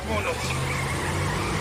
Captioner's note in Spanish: Chirrido de llantas